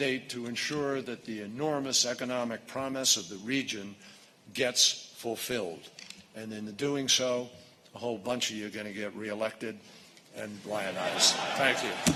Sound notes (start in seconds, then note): 10.9 laughter